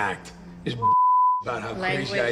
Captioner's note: beep